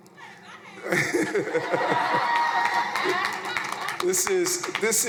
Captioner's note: crowd cheering; chuckles